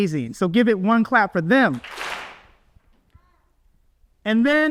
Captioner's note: audience claps